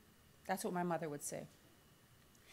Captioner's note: none